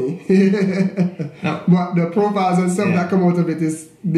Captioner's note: laughs